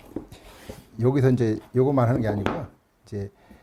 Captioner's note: tool sound